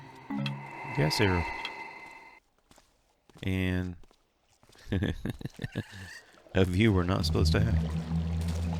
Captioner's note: laughs